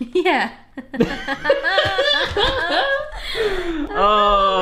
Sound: laughing

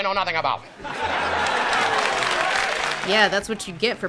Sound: laughter, applause

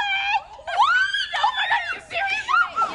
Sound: all scream

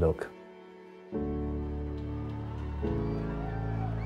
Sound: crowd cheering

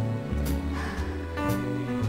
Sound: sighs

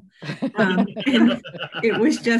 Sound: all laugh

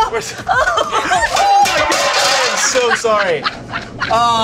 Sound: screaming; laughing

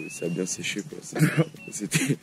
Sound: nervous laughs

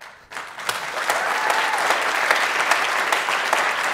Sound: audience applauds

